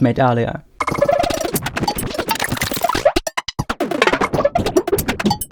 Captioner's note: eclectic digital sounds